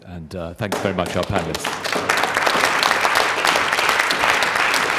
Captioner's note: applause